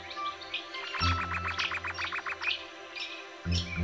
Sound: bird calls and music

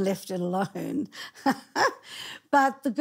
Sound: laughing

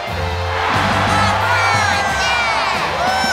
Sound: cheering

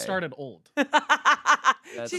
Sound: laughing

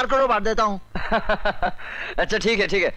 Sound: laughs

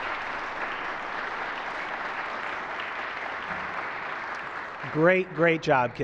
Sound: applause

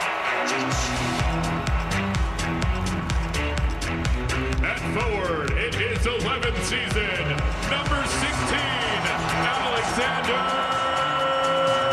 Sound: cheering

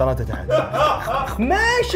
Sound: laughing

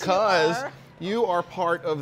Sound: laughs

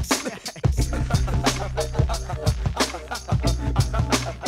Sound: laughter

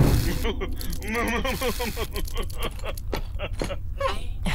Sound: shaky smug laughter

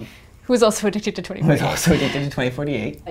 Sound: laugh

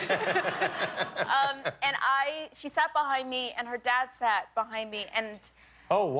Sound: laughter

